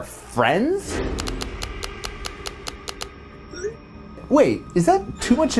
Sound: keyboard clicking

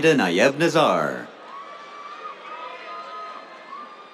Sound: cheers

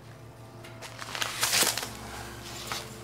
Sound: ruffling

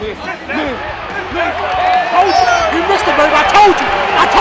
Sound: cheering

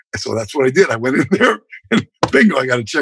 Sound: laughter

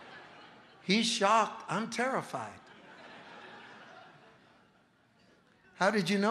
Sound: congregation laughing

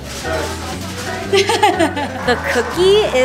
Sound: laughs

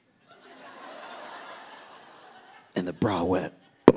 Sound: audience laughing

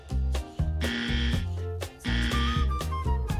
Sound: buzzer buzzing

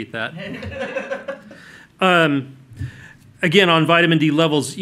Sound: laughter

